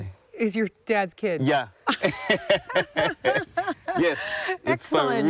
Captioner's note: both laugh